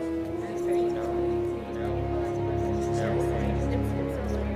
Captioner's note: group chattering